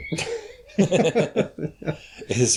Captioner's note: laughter